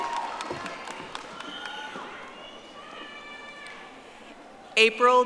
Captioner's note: audience applauding